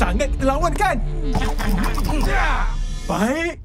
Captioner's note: robots laugh, growl fiercely